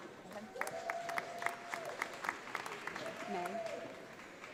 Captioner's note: audience applauding